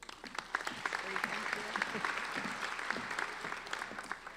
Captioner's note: applauding